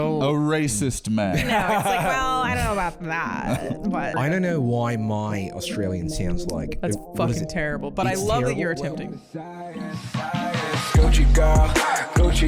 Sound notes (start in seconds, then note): 3.8 Australian accent; 10.9 outro music